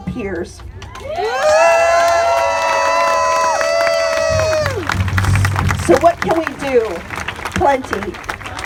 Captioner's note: cheers